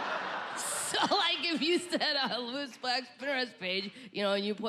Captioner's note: chuckles